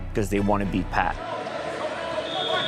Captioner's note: whistle blast sounding